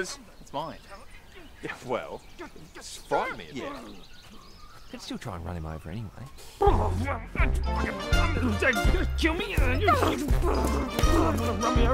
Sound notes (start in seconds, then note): 6.6 grumbling angrily; 9.8 Lana grumbling angrily